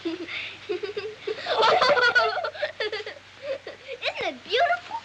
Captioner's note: giggling